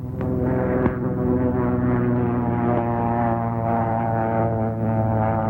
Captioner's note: airplane engine roaring